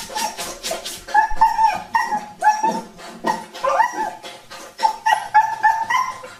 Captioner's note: dog frantically whining and crying